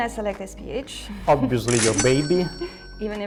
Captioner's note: cash register cha-ching